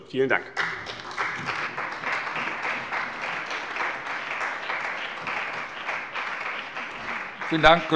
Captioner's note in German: Beifall bei dem BÜNDNIS 90/DIE GRÜNEN und der CDU